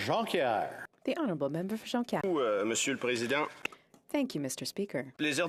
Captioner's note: speaking French